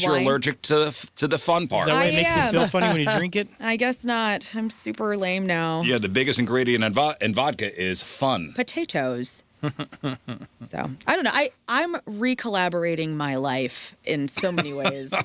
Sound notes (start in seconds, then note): 9.6 laughter